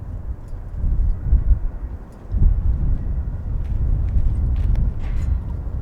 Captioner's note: wind whistling continues